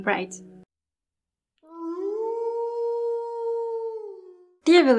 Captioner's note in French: Loup hurlant